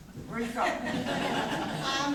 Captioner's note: corporate laughter